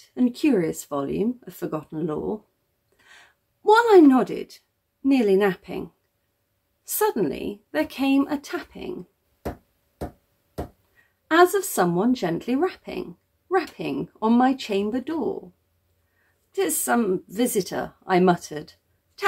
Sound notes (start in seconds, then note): 10.6 three taps